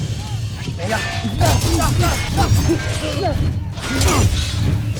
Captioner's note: music fades; weapons clanging & swishing; grunting & growling; grunts & weapons clang; evil energy whoosh & crackle